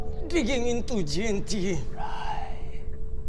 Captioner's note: whispers